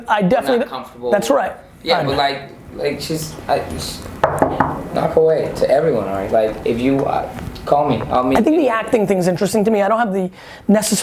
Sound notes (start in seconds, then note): 4.2 knocking